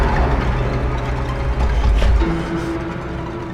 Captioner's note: heavy wet footsteps